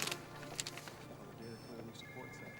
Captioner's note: alarm